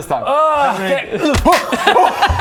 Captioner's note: hrgh!; gleeful laugh